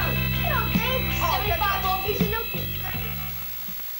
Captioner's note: kids chattering